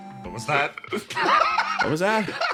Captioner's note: laugh